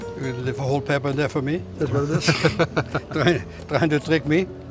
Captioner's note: laughs